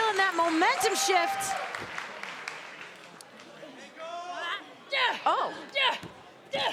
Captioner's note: applause